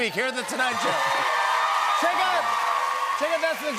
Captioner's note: cheers and applause